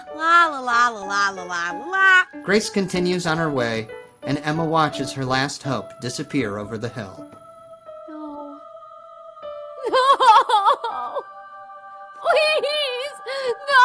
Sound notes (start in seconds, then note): 9.8 Emma sobbing